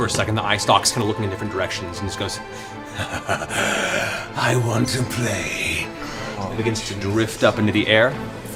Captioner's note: laughs